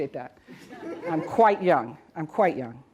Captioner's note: audience laughs